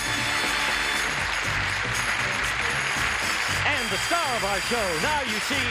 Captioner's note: applause